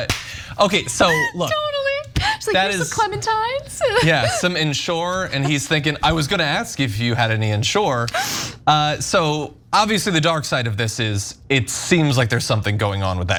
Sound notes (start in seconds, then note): 1.0 laugh